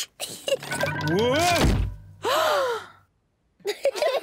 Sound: laughs; gasps; all laugh

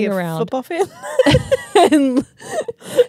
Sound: laugh

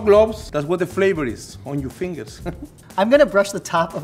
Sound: laughs

